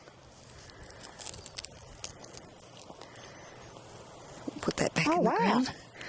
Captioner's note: plants crunching